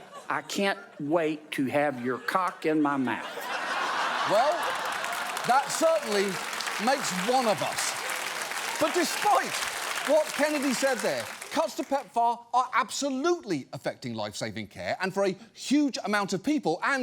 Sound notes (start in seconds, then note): 3.6 audience laughs; 7.8 audience applauds